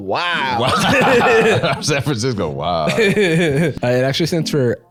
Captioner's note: both laughing